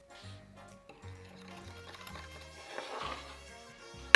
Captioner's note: whisking